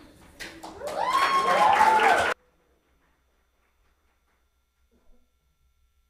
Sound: audience applauds; people cheer

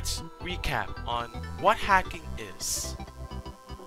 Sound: mic buzzing DX

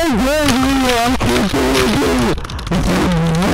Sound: raging gibberish

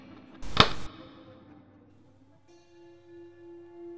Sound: camera Clicking Sound

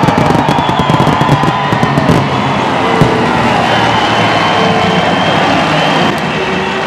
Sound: crowd cheering at Night Under Fire!; background music

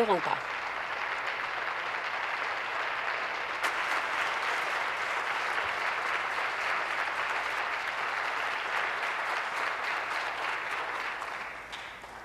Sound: applause

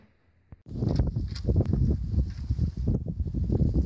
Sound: wind rustling

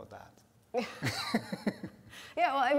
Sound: laughter

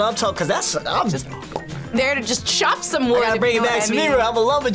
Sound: pops lips

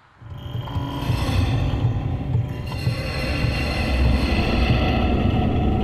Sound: haunting echoes of pipes rattling, buzzing

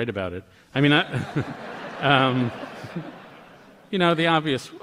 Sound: laughter

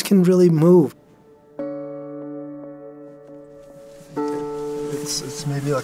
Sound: sound of rustling, getting into car

